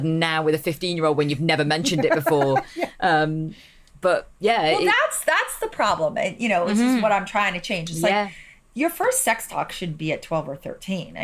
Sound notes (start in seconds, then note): 1.8 laughs